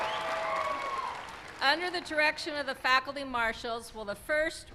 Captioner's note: cheering